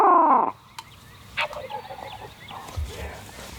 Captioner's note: whispering